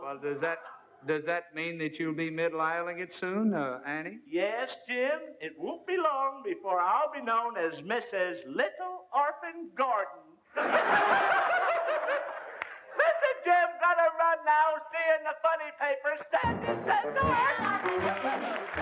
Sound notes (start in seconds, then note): 10.5 laughter